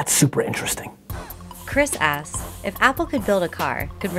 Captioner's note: voiceover